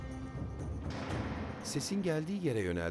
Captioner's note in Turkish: Kapı kapanma sesi; Müzik - Gerilim